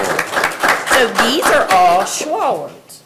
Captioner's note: everyone applauding